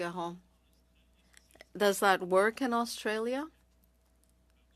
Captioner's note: speaking French